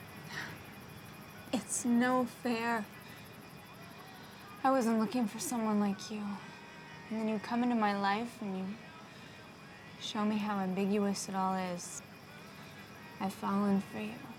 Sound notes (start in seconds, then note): none